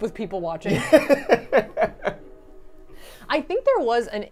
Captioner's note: laughing